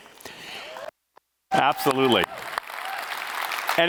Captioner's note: audience cheering